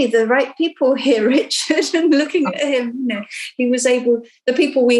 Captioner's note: laughing